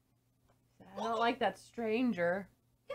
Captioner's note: speaking as Squirrel the cat